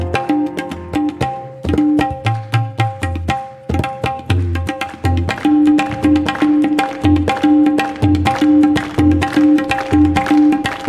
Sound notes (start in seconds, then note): 0.2 lively tabla drumming; 5.5 audience rhythmically clapping